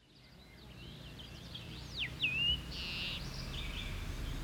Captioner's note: birds chirping